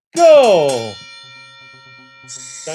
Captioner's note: bell ringing